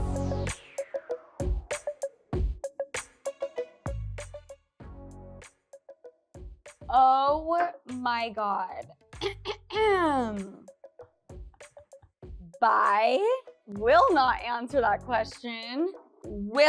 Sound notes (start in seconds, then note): 0.0 hip music; 9.2 clears throat